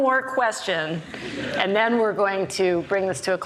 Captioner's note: audience laughs